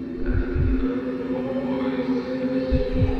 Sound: strong wind

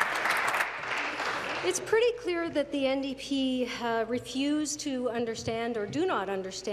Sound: applause

